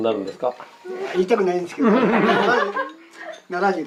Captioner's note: laughs